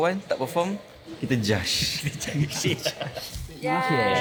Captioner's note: laugh